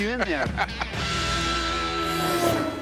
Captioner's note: Rick laughs